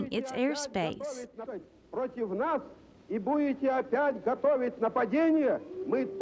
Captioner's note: speaking in foreign language